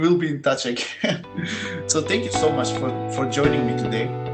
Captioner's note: laugh